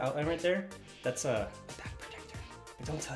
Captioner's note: whispering